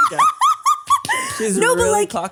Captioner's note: laughs